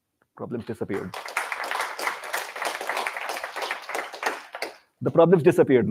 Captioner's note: applause